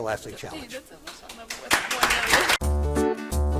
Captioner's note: audience applauding; happy music